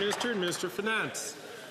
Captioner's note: some Applause